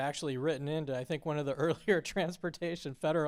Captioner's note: laughter